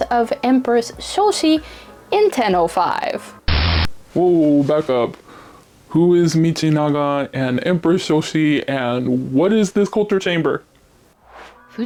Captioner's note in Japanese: 静的